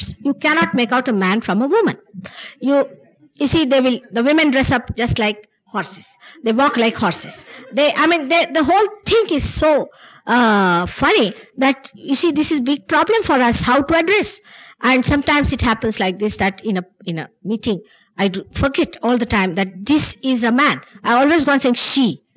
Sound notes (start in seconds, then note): 6.4 laughter